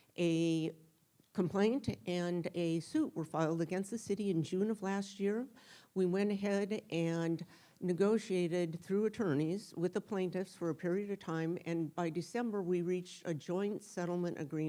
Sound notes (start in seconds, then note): none